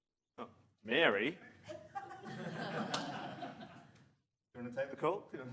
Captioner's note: audience laughs